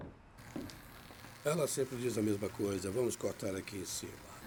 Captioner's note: chatter